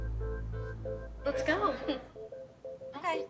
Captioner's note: laughs nervously